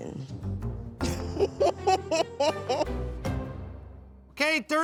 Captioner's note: soft jaunty music; laughs